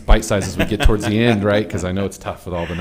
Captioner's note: all laughing